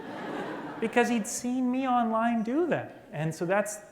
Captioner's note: laughter